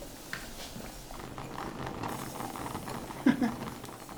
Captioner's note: the sound of water boiling in the saucing pan; the sound of kitchen utensils; Jesse giggles